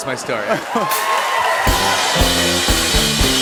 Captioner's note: laughter, cheers, and applause